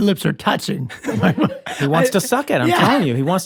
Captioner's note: laughter